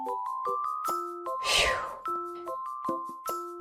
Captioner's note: exhale